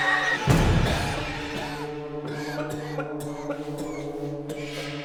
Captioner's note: woman screeching; Danny coughs